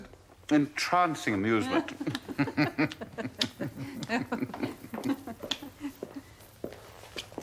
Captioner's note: MYRA and DAVID laugh